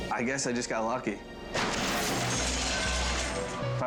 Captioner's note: bike clatters